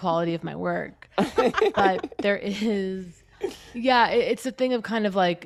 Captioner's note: laughter